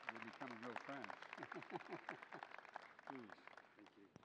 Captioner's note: laughs